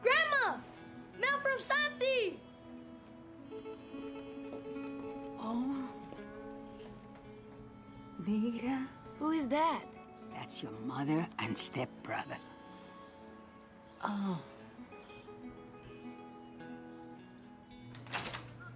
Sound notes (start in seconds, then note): 7.9 berbicara bahasa spanyol